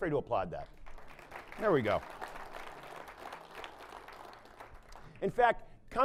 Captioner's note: applause